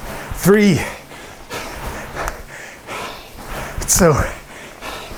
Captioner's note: breathing heavily